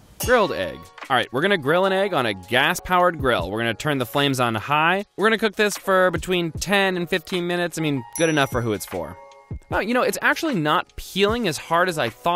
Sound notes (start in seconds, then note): 0.2 cymbal crashes; 8.1 dings